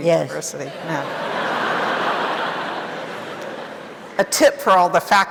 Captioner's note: audience laughing